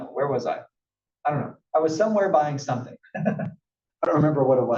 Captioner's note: laugh